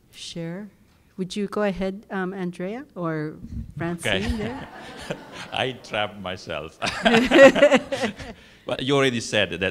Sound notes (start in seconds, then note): 4.0 laugh